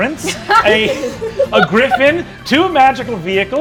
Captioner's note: laughing